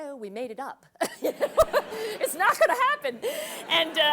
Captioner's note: laugh